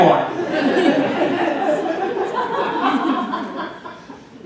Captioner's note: audience laughing